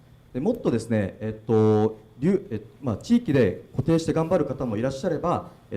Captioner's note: speaking foreign language